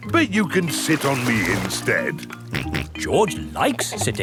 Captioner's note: snorts